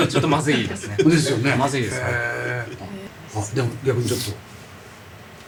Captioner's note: laughs